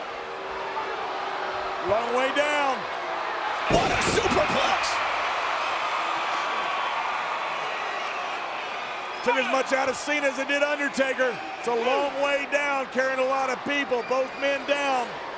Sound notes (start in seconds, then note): 5.4 audience cheering